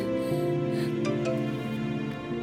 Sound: phone chimes

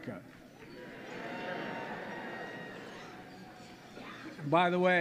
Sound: applause

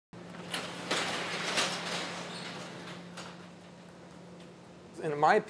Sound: garage door opens

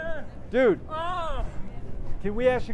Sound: man exclaims loudly

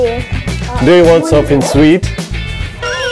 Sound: speaking in English

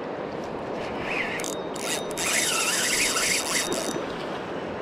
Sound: screaming Reel

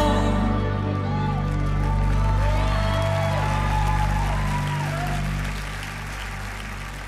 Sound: audience cheering; audience applauding

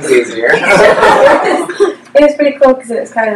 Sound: laughter

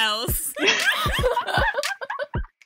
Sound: hosts laugh

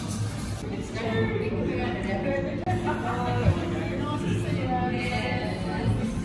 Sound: lots of people talking can be heard in the background

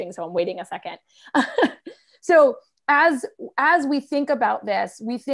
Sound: laughter

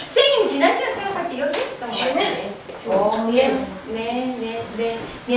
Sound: speaking foreign language

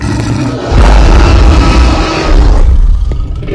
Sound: dinosaur Bellow

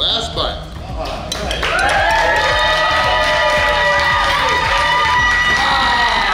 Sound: cheering

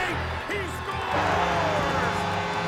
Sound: buzzer

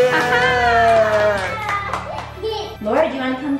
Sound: cheering

